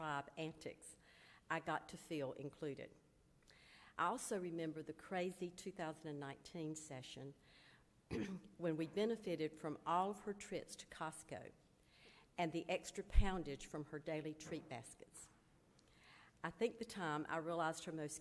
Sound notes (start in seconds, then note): 8.1 clears throat